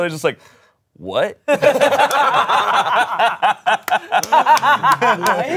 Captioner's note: everyone laughs